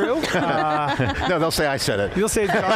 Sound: chuckling

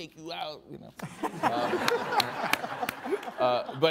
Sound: all laughing

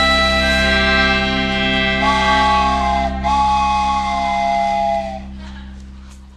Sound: far away train whistle

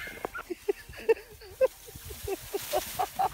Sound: laughing

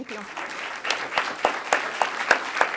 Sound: applause

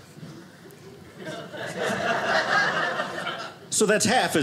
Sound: audience laughing

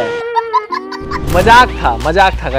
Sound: laughing

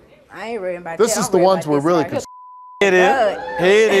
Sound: beep

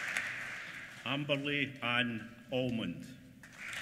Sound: applause

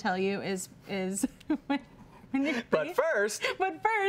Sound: giggling

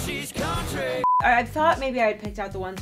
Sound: beep

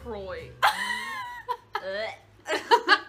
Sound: laughs; laugh

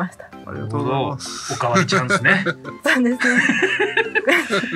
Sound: laughs

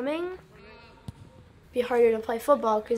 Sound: kicking soccer ball, cheering

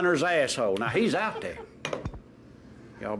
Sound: everyone laughs

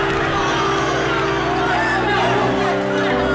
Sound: cheering

